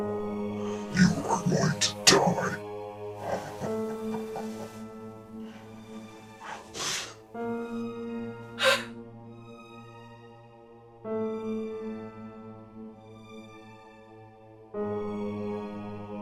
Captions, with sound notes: You are going to die. [Chemock chuckles] [Kathryn whimpers]